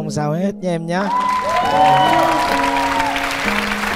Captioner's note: cheering